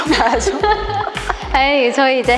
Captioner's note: laughter